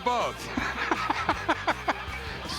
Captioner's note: Rick laughing